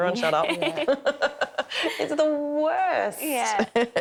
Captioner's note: laughing; laughs; laughing